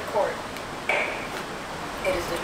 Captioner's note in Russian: стук молотка судьи